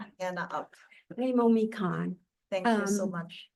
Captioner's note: speaks Hawaiian